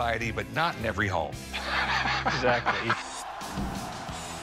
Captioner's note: laughter